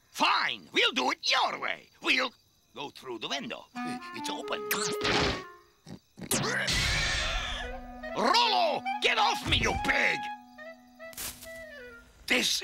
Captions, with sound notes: Fine, we'll do it your way. We'll go through the window. It's open. (ROLO SQUEALING) Rolo, get off me, you pig.